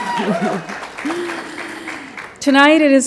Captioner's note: applause